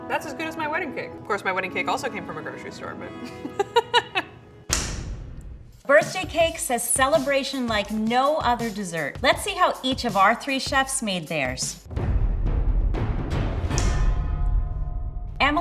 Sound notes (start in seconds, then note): 3.2 laughs; 11.9 mystery drum music